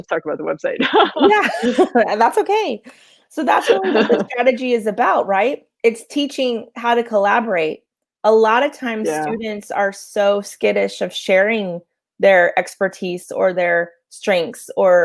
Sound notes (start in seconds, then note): 3.8 voice muffled